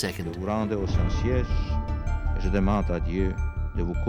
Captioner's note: Pope John Paul II speaking French